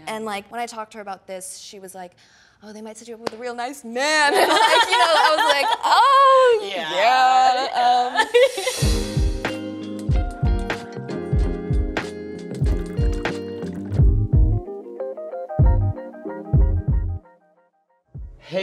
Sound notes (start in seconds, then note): 4.3 both speakers laughing loudly; 7.6 laughs genuinely; 9.2 relaxing music begins; 11.9 tea pouring; 14.7 relaxing music ends